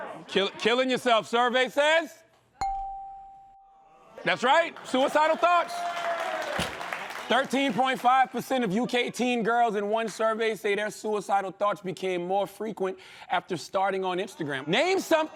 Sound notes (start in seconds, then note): 2.6 bell dings; 6.2 applause